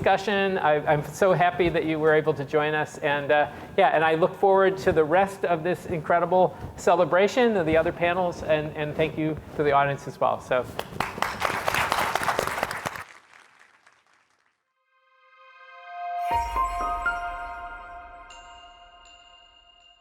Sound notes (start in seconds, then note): 11.0 crowd applause; 15.1 bright upbeat music